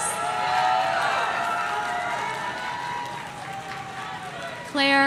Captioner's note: audience cheering